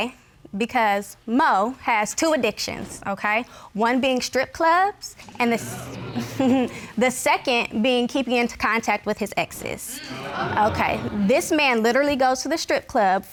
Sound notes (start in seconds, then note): 6.0 scoffs